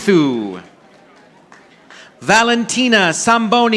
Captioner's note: audience applauding